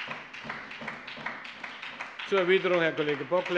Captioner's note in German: Beifall bei der SPD